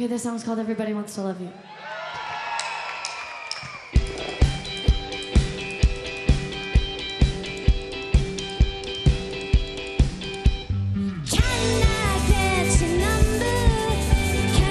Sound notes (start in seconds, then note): 1.6 audience cheering; 1.8 audience applauding